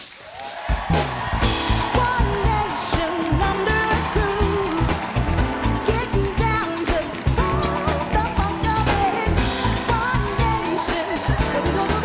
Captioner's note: applause